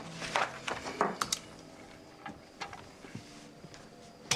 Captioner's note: switch clicks